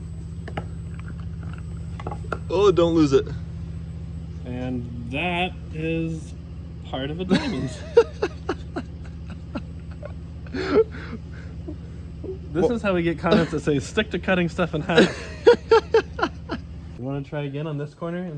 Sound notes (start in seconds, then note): 7.2 laughs; 14.6 laughs